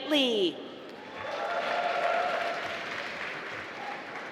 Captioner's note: applause